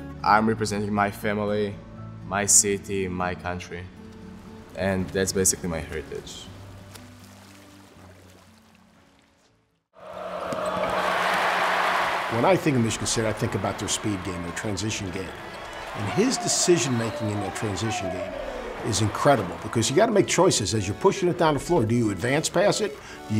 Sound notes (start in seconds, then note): 10.0 audience cheering